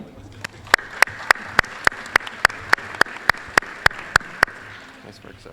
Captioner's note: applause